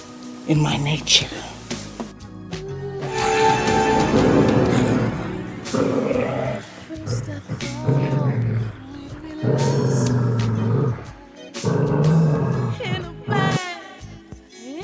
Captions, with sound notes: in my nature. [roaring sound]